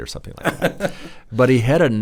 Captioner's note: laughs